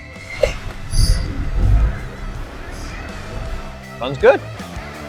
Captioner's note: engine Revs